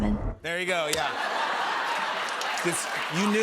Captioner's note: laughter